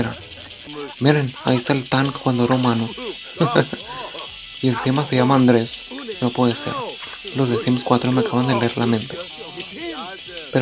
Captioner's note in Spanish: Risa breve